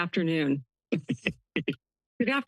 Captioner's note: laughter